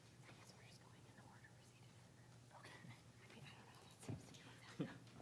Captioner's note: speaking faintly